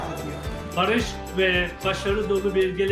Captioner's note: non-english speech